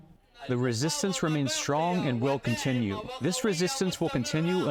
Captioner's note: through translator